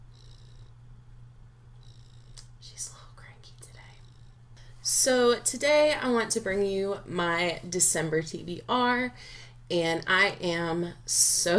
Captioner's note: whispers